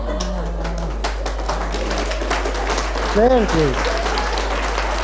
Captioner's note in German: Applaus